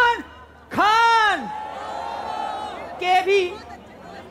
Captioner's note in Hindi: चियरिंग